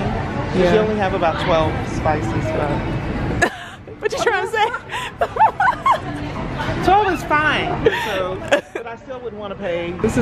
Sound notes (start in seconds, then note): 4.2 laughing